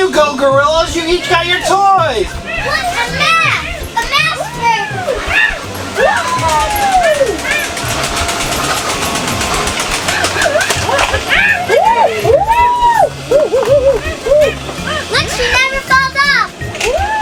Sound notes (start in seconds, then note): 8.4 apes making delighted noises